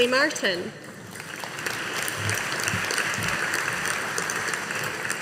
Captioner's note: audience applauding